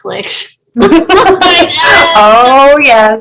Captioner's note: laughing